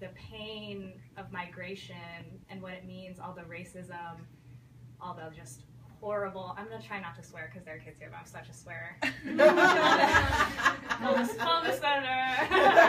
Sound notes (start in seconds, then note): 9.1 people laugh